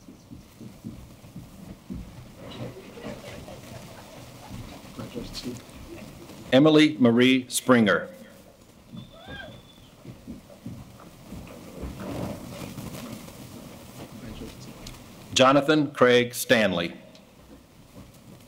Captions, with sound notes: Congratulations, Stephen. Emily Marie Springer. (cheering) Congratulations. Jonathon Craig Stanley.